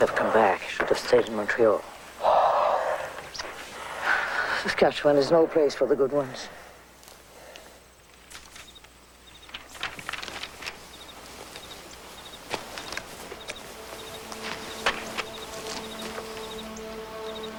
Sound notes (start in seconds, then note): 3.6 kissing; 9.2 twittering of bird